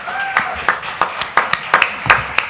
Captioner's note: applause